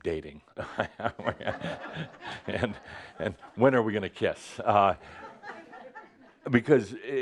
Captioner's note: chuckles; more laughter